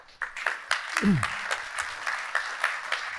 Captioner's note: applause